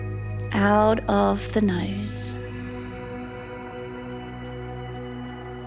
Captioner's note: exhales; calm music